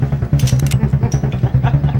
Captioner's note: gun cocks; laughing